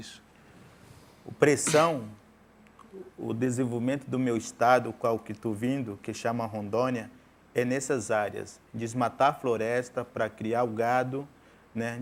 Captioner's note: speaking in portuguese